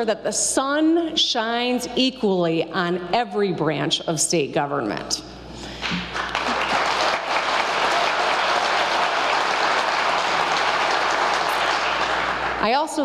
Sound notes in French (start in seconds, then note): 5.8 applause